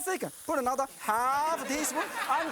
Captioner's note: audience laughing